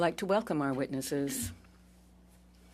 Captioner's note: speaking in French